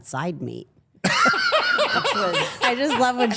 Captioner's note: Paul laughing